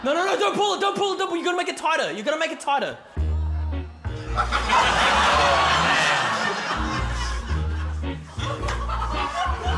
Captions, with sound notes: No, no, no, don't pull it! Don't pull it! You're gonna make it tighter! You're gonna make it tighter. (LAUGHTER) (QUIRKY MUSIC)